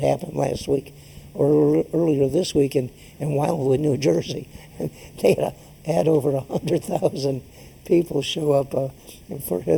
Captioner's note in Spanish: laughs